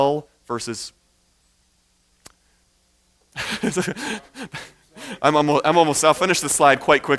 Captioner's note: chuckles